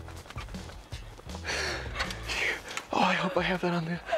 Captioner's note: laugh